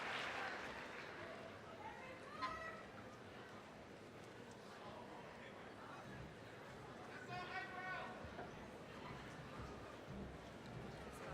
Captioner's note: applause; general chatter